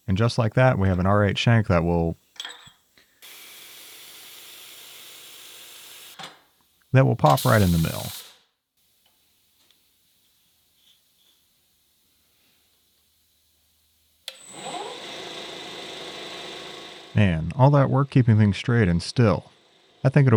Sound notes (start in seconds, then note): 14.2 lathe whirring